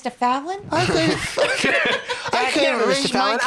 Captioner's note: laughs